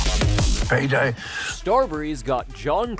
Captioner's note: breathes